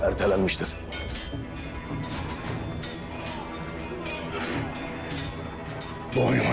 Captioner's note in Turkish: Vuruşma ve kılıç sesleri